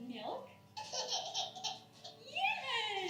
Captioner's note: giggling